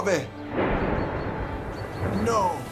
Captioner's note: loud thunder